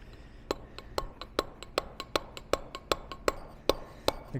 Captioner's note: metal hammering